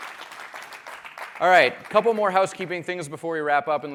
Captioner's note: applause